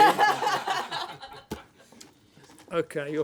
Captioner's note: laughter